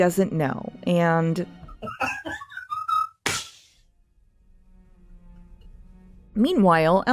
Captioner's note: Pedro Pascal laughing then crying